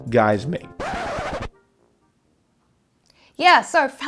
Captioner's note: record scratch sound